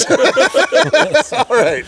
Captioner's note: all laughing